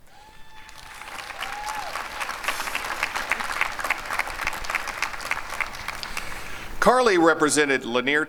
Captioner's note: applause and cheering